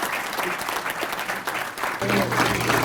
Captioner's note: applause